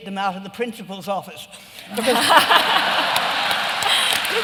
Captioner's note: laughter and applause